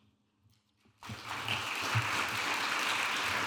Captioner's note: audience applauding